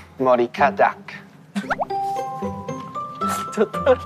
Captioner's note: laughing